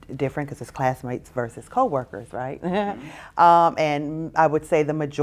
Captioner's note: laughs